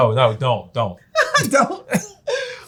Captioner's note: laughs